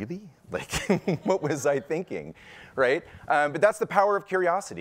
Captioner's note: laughs